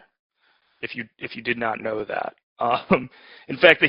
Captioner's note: laughs